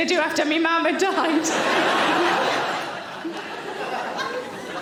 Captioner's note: audience laughing